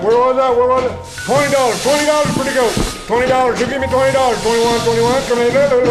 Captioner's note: auctioneer Chanting; sweeping Sounds